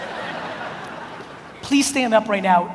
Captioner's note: audience laughs